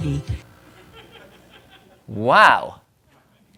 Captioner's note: audience laughing